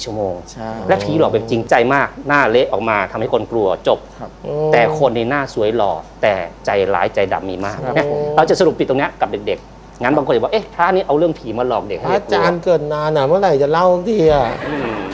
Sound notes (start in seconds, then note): 12.1 kid's voice